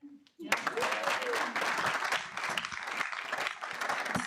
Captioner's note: audience applauding